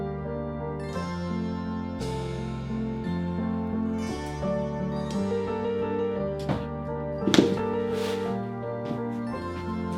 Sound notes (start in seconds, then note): 7.2 shoe taps on floor